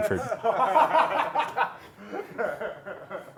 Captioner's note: laughter